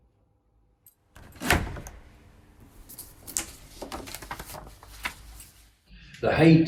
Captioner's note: doors opening and paper rustling